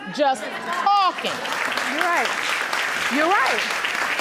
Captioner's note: audience applauding